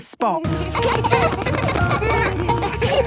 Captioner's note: laughter